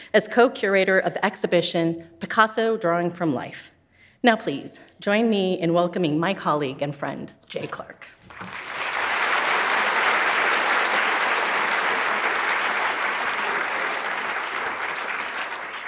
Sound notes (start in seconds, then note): 8.2 audience clapping